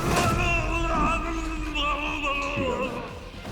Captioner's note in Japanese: うめき声